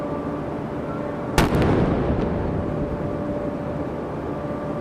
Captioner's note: cannon firing